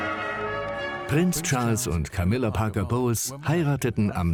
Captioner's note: voiceover